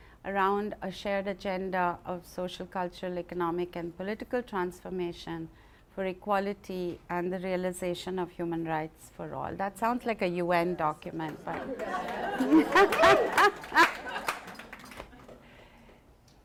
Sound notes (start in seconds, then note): 11.2 applause; 14.7 laughs